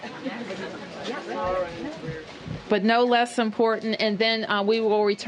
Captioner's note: laughter